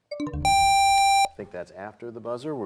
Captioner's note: bell chimes, time expires